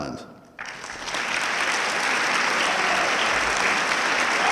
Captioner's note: audience clapping